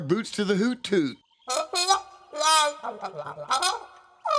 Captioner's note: hooting